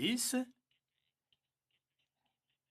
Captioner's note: speaking in French